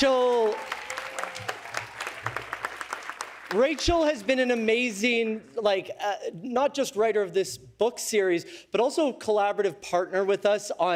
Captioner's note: cheers and applause